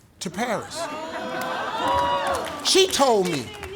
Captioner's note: crowd groaning